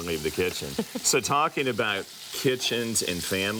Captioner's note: woman giggles